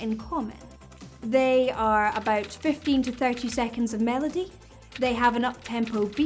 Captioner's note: keyboard typing